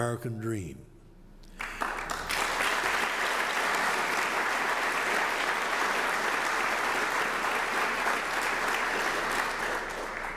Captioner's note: applause